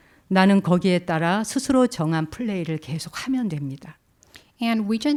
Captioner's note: speaking in Korean